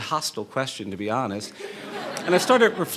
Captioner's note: laughing